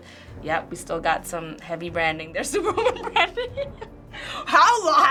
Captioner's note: laughs